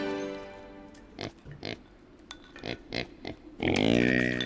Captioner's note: pig oinking